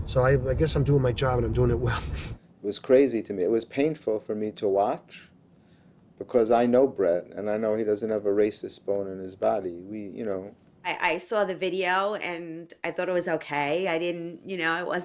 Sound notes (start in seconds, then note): 1.8 laughs lightly